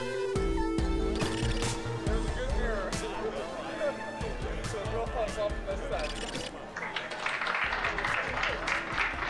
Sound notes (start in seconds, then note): 2.2 people chat; 6.7 applause